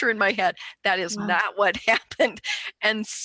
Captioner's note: laughs